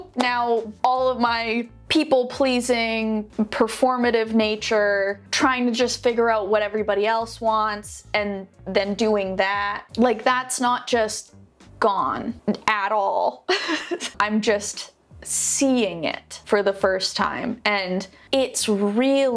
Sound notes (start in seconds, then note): 13.4 laughs